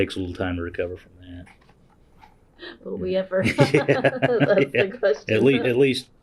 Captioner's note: laughter